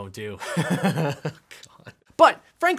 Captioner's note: laughing